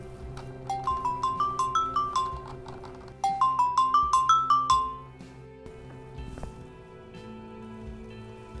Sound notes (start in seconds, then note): 0.6 cell phone chiming